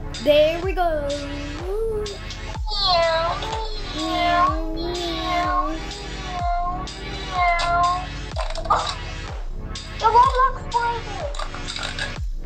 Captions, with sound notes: There, we go! (Car Sounds) Your Roblox Brother!